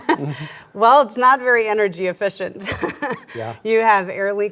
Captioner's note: laughs; laughs